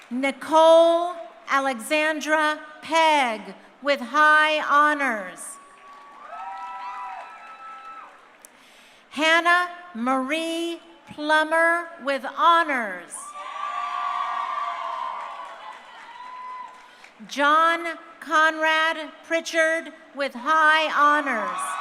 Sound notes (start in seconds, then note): 5.6 crowd cheering; 13.2 crowd cheering